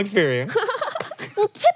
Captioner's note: laughs